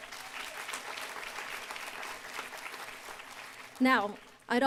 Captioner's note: applause